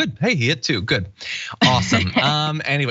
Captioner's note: laugh